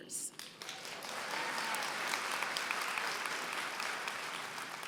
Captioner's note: applause